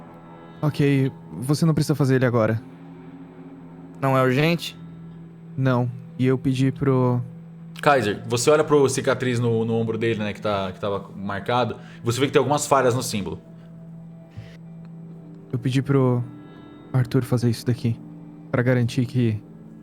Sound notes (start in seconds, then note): none